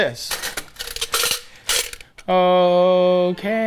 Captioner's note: utensil holder rattles